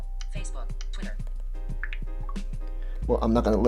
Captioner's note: pop, beep